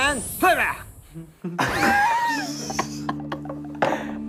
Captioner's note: laughing